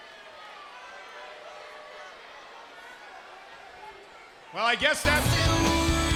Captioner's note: crowd chatter